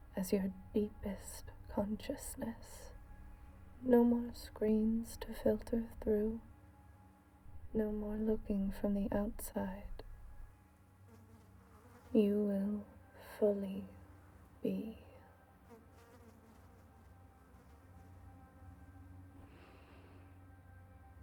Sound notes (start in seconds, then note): 15.4 fly buzzing